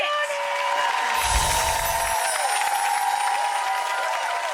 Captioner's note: audience cheering